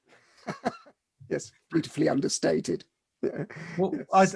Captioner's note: laughs